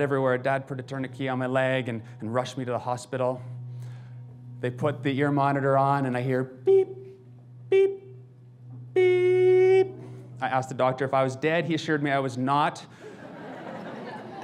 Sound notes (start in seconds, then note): 8.7 imitating long beep; 12.9 audience laughs